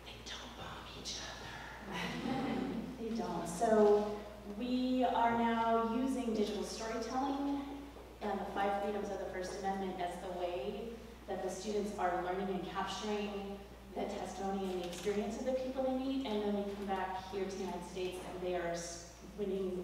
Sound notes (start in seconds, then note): 1.9 laugh